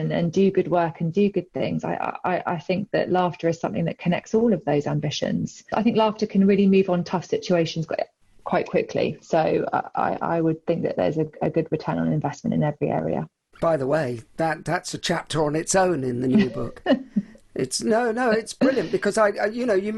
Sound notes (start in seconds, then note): 17.6 chuckles